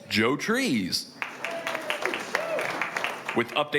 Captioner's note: crowd cheering